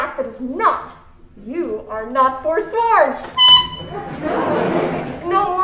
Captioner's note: tooting